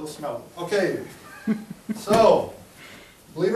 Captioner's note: chuckling